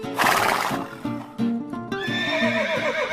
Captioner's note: horse lips smacking; horse neighing